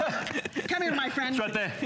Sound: laughter

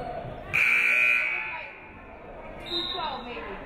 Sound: buzzer buzzes; referee whistles

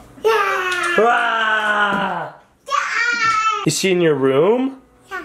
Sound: screeching

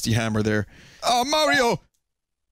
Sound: Cartoon Luigi Impression

